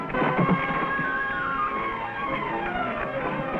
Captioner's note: scuffling